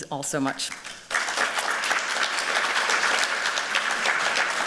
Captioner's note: applause